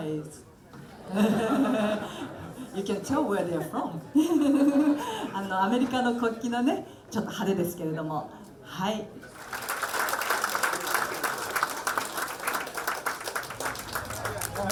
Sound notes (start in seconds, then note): 4.4 laughing; 5.8 speaking in foreign language; 9.2 applauding